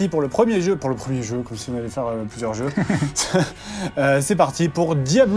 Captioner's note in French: rires